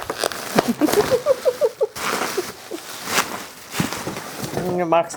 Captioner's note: laughing